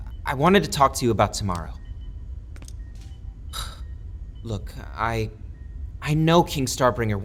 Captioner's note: sighing